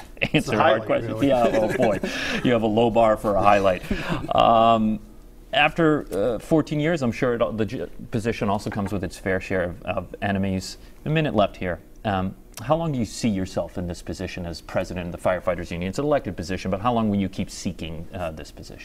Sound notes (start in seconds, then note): 3.9 laughter